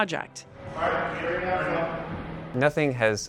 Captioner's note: indistinct chatter